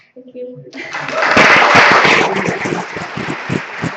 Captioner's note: applause